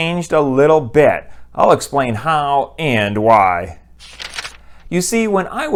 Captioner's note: page turn